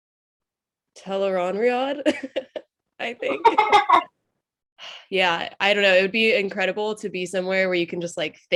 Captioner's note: laughs